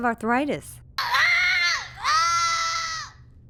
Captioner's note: child screaming